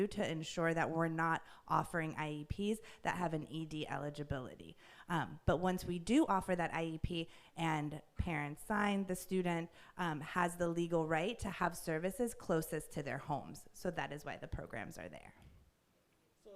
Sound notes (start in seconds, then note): none